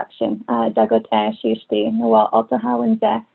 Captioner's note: non-english speech